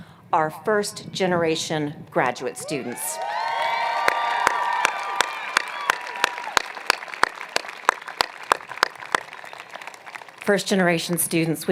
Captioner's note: cheers and Applause